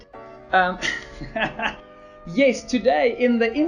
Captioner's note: laughs